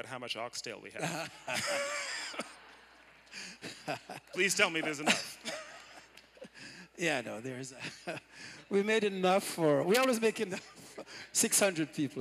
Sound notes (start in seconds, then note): 6.0 laughter